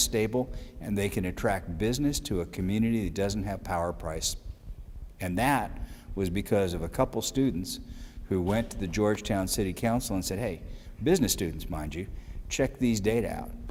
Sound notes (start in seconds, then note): none